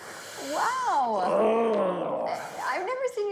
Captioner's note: grunting